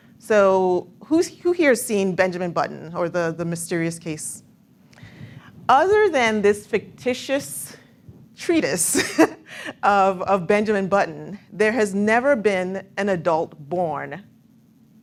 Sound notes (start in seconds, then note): 8.9 laughs